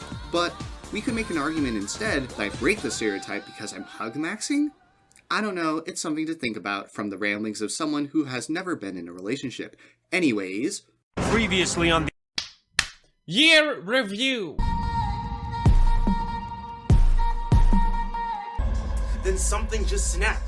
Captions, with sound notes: But we could make an argument instead, that I break the stereotype because I'm hug-maxing? I don't know, it's something to think about from the ramblings of someone who has never been in a relationship. Anyways. Previously on the (clapping) Year Review. (upbeat music) Then something just snapped.